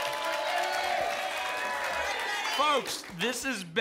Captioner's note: applause and cheering cont